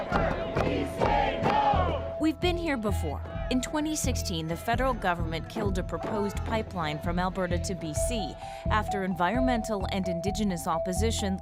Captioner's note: chanting